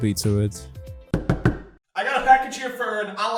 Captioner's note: knocking